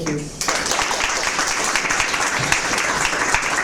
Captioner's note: applause